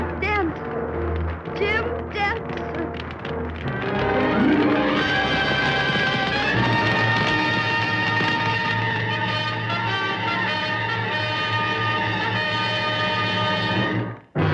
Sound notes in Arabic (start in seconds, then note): 3.7 موسيقى درامية; 4.9 فرقعة النار